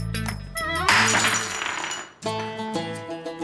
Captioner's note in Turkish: Cam kırılma sesi